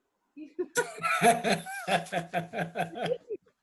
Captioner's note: laughing